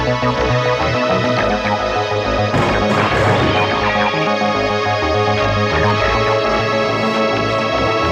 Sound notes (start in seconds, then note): 2.1 ominous sci-fi music; 2.6 chair crashes